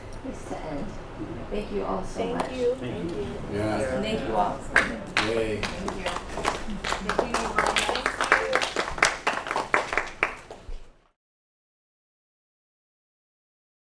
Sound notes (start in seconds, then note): 8.5 applause